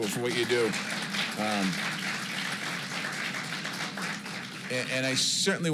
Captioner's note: applause